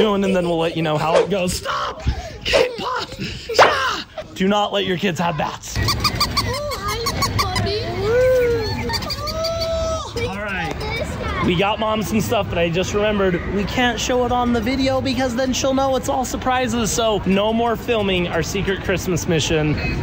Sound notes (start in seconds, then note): 3.4 person exclaiming; 5.8 toy squeaking